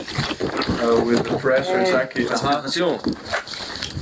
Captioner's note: in Slovene